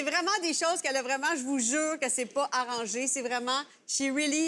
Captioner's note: speaking in french